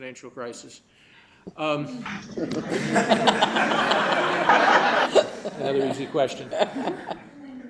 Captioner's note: laughter